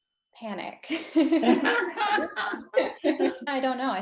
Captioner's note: both laugh